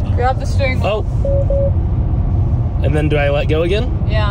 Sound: car beeps

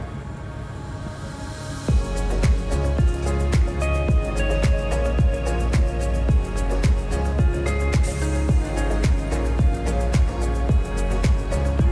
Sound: wind blowing

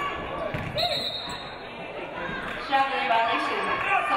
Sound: referee blows whistle

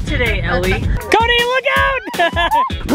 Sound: laughs

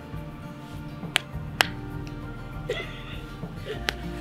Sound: laughing

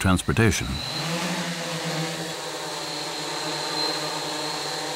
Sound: whirring

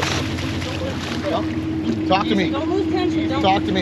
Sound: fish splashing

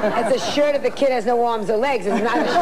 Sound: laughs

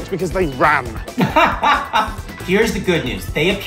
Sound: laughs

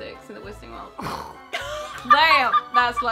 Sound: expresive exhalation

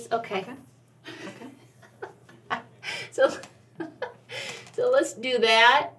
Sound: laughs

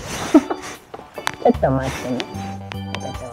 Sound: laughs

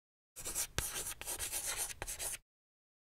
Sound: chalk scratching

